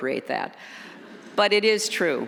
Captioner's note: audience chuckles